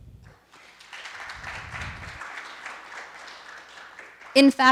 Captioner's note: audience claps